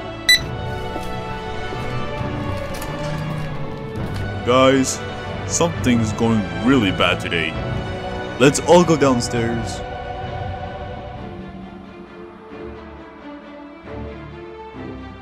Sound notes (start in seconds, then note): 2.6 door opens